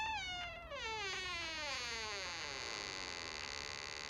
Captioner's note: door creaking